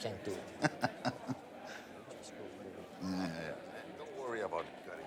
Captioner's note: person laughing